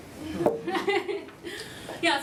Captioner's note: laughter